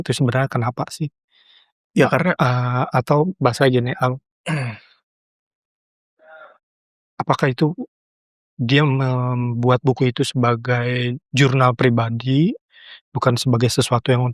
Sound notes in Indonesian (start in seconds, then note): 4.4 berdehem